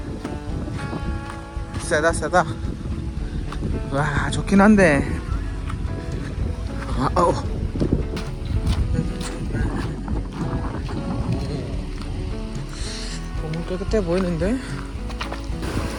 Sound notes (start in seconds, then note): 1.6 the wind